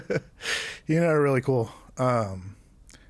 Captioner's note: laughter